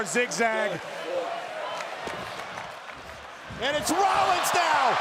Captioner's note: applause